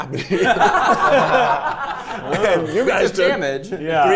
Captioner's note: players laughing